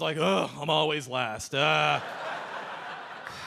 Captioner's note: audience laughing